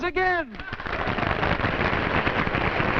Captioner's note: clapping